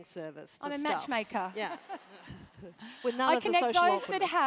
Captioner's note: laugh